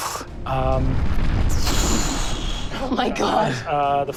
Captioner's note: mimics air whooshing